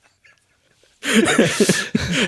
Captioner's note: both laughing